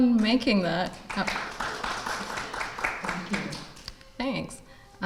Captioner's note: crowd claps